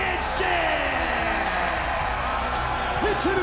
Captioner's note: crowd cheering